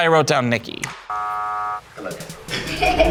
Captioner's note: buzzer buzzing; group laughing